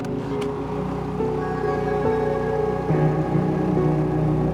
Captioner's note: motor purring